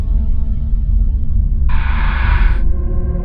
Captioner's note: ghostly breath blowing